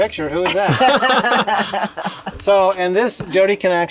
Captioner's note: laughs